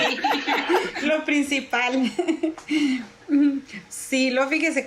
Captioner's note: laugh